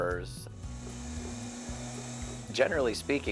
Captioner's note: wheel whirling